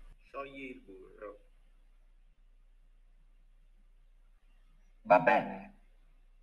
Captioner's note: instructor speaking in foreign language; Bastion speaking in foreign language